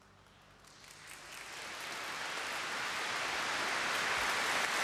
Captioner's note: crowd applauding